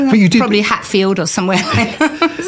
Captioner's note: laughter